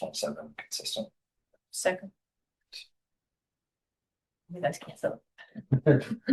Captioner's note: laughter